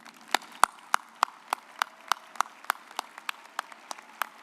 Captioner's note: audience applauds